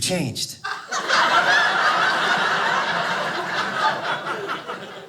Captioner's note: audience laughing